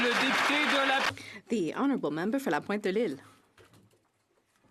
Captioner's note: some Applause